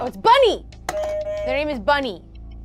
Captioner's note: buzzer rings